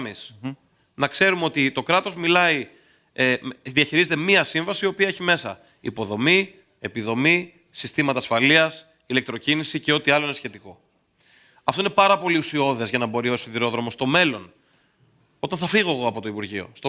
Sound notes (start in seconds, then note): 2.7 speaks